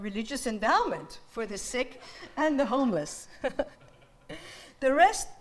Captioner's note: audience laughs